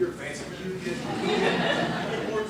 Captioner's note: laughter